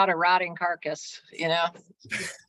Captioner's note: laughs